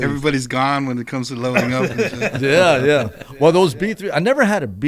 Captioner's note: laughter